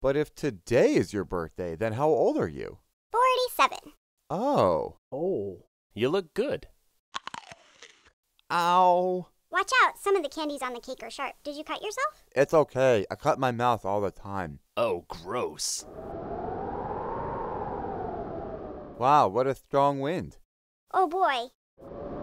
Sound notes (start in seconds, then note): 7.2 chewing; 16.8 wind gusting